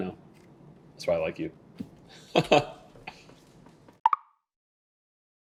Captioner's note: laughing